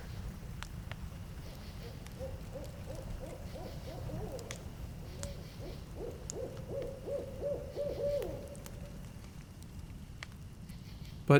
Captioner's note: the guitar stops. Fire crackling. Crickets chirping. Owl hooting